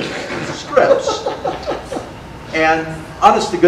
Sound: audience laughter

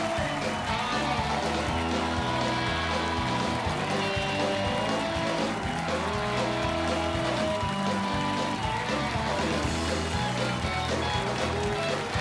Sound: cheers and applause

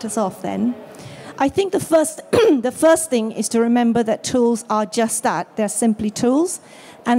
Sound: coughs

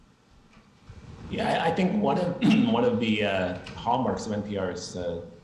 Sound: clears throat

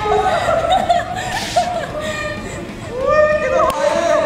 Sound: laughter

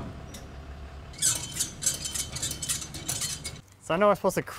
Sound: winch creaks

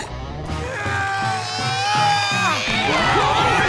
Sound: groaning; screaming

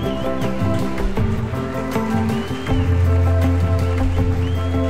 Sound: applaud and whistle enthusiastically

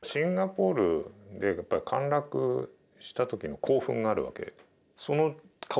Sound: speaking in foreign language

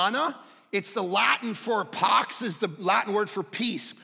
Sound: none

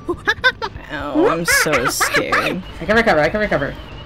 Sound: monkey sounds; monkey Noises

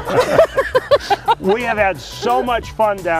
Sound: laughter

